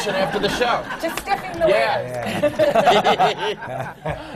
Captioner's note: laughter